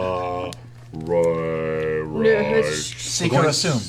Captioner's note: shushing